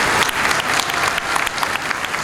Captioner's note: applause